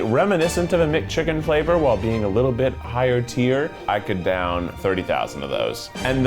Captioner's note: none